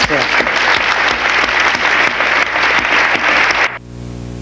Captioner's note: audience applause